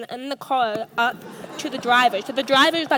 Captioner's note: audience laughs